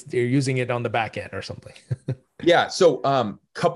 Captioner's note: chuckles